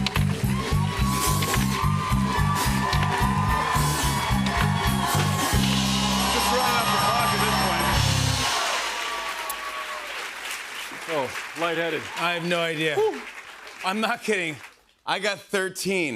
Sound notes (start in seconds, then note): 2.2 cheering; 7.5 cheers and applause